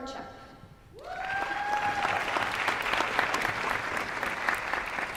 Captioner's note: applause